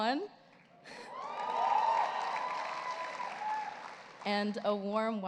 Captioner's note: audience cheers